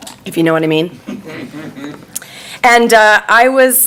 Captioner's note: audience laughing